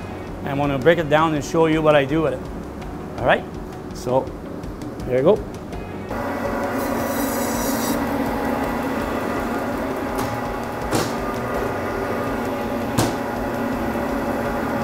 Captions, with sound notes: and I'm going to break it down and I'm going to show you what I do with it alright so here I go [sound of blade] [thud of lamb] [thud of lamb]